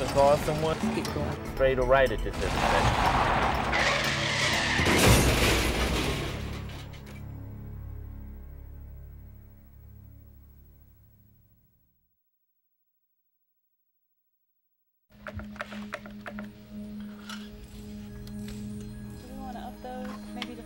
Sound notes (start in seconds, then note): 2.3 tires screech; 5.2 crash!